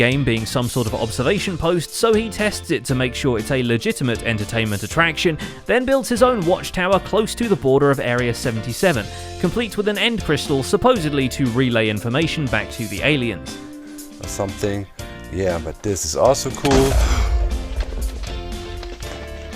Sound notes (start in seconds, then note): 16.7 2b2t explosion; 16.9 gasp